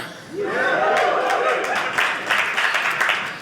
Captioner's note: audience laughing